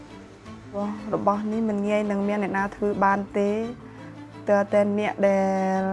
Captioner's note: speaking foreign language